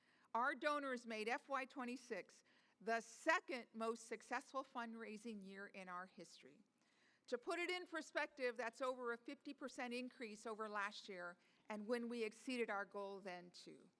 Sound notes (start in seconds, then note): none